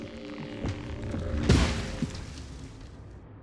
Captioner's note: tree thudding